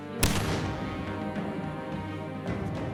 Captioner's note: bangs